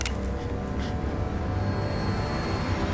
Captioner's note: cocks rifle